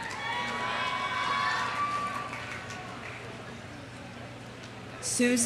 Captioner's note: audience cheering; audience applauding